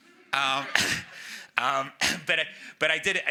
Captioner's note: audience member chuckles